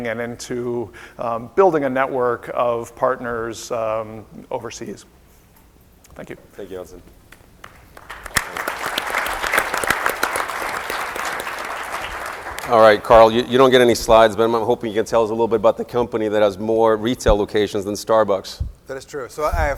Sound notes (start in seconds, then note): 7.6 applause